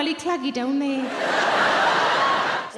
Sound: crowd laugh

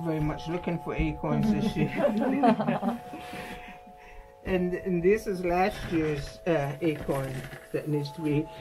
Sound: laughter

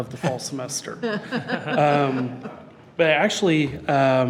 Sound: trustees laugh

